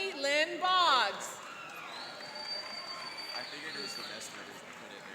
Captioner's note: cheering and applauding